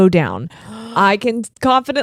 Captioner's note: gasping